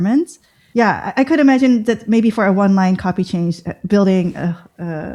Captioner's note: uh